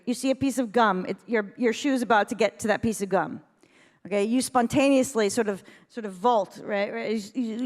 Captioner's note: none